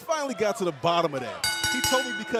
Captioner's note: bell ringing